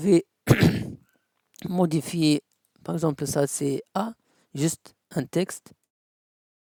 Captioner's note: clears throat